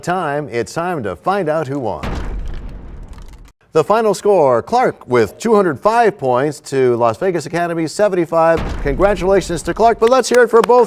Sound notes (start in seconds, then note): 2.0 crashing sound